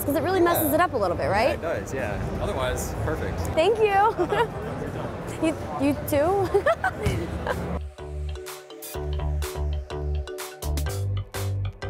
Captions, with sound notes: 'cause it really messes it up a little bit, right? - Yeah, it does, yeah. Otherwise, perfect. - Thank you. - Have a good time. - You too? (laughs) (upbeat music)